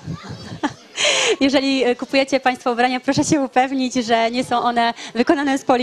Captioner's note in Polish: śmiech